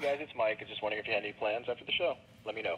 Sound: electronic voice

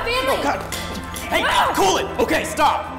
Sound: woman screams

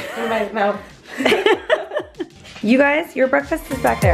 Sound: laughing

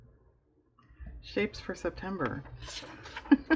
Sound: laughs

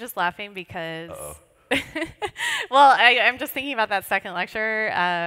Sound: laughs

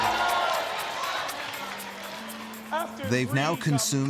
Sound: crowd cheering

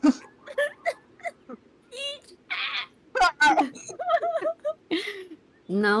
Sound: laughter

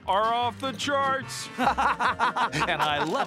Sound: laughing

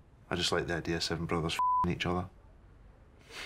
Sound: beep

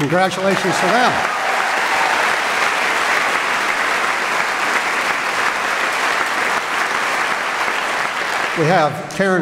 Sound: applause

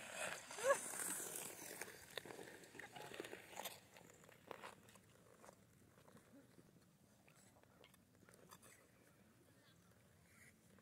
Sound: skates scraping

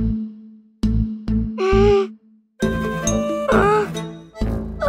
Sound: funny music playing; moaning; groaning

